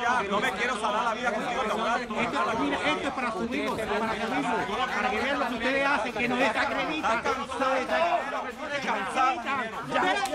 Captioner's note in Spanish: Hablan al unísono